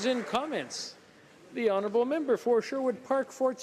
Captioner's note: applause